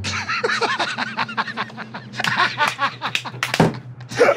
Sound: laughter

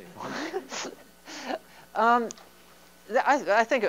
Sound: laughter

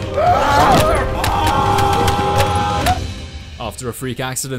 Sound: all screaming

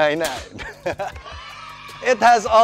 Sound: chuckles

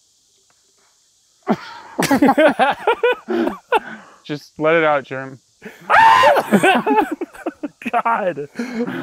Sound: laughter

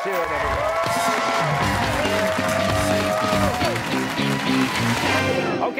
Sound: cheers and applause

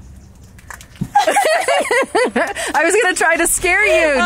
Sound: laughing

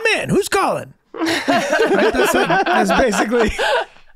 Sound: Rob and Megan laughing

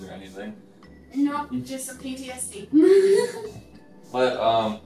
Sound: laughs

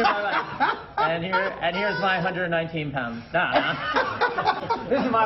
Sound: laughter

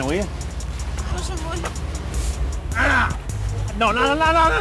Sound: speaking in Russian

